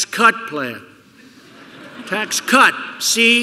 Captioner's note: laughter